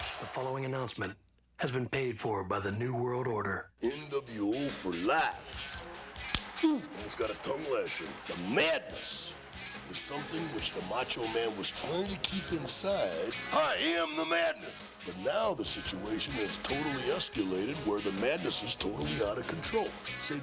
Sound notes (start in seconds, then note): 0.0 upbeat music; 4.6 clapperboard clapping